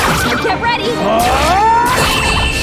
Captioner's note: screaming